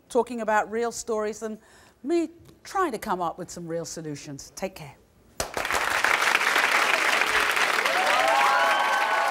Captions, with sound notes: talking about real stories and we try to come up with some real solutions. Take care. (audience claps)